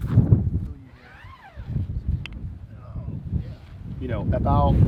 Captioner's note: zipping